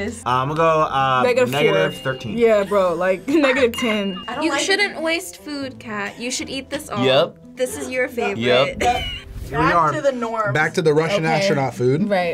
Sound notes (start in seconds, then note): 1.4 bell dinging; 8.7 cackling